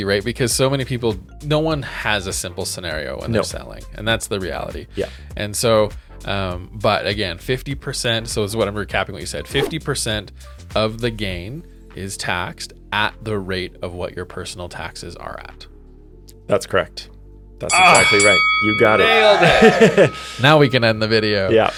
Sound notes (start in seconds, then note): 17.7 bell dings